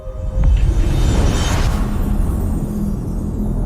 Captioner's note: dramatic sound